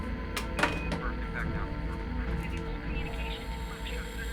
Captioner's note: distant radio chatter